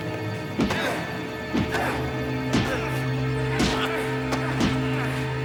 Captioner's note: groans; thuds